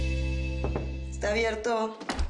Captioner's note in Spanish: Toques en la puerta